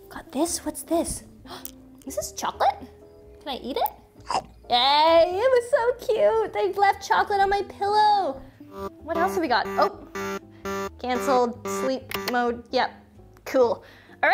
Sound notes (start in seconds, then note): 4.2 mouth chomping; 9.1 alarm beeping